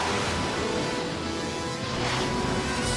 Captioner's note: jets whoosh through air